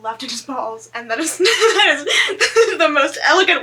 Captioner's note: laughs